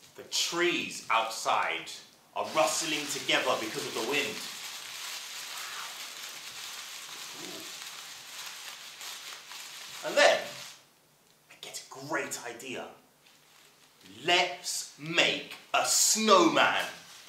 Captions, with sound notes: The trees outside are rustling together because of the wind [Sound of rustling of plastic bags] And then...I get a great idea, let's make a snowman